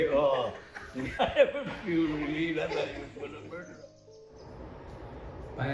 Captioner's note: laughing